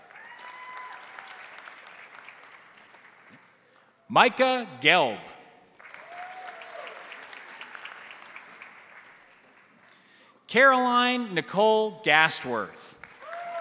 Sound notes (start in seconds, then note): 0.0 crowd cheering; 0.0 crowd applauding; 5.7 crowd applauding; 5.8 crowd cheering